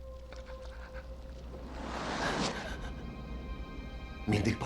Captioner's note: squishing sounds